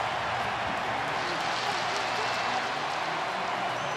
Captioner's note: crowd cheering